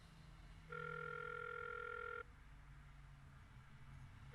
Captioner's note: phone rings